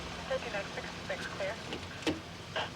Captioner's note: walkie talkie talking